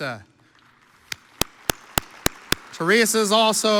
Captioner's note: audience applauds